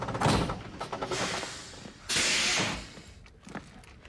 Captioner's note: engine stops, hydraulics hiss